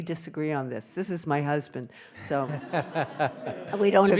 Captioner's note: audience laughing